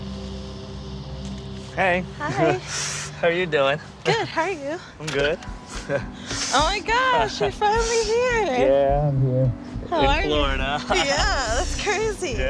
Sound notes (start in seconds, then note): 7.0 laughing